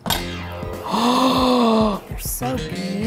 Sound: gasps

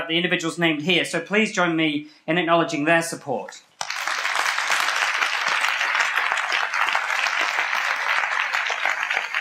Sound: applause

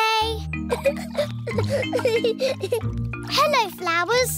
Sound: giggling

